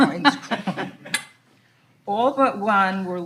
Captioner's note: all laughing